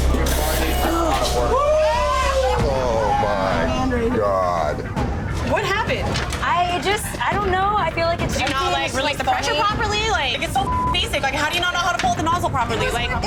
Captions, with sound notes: (customers whooping) - Oh my god. - What happened? - I just, I don't know, I feel like it's... - Did you not like, release the pressure properly? Like it's so (beep) basic. Like how do you not know how to pull the nozzle properly?